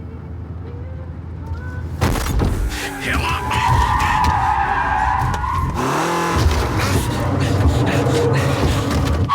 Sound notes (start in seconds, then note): 1.8 tyres skidding; 2.0 thumping; 2.7 grunts